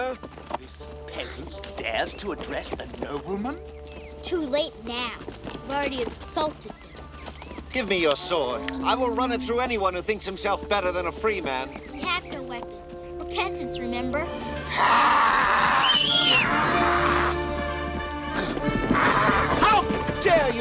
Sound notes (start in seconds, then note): 17.8 screams